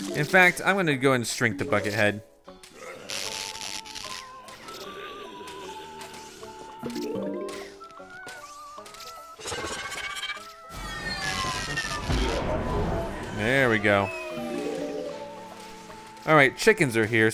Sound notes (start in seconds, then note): 4.6 zombie groaning